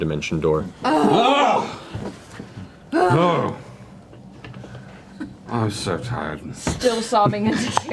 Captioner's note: yelps